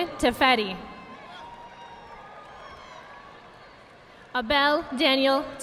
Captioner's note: audience applauding